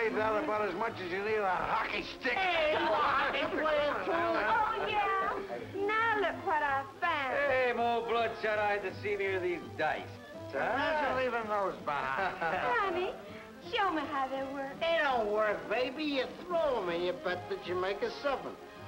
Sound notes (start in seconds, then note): 2.4 people talking